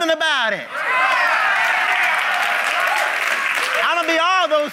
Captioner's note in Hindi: ताली